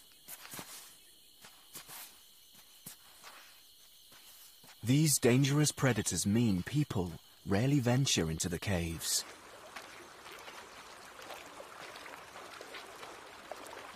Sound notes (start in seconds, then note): 6.0 water splashing